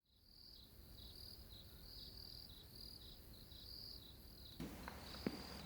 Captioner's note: crickets chirping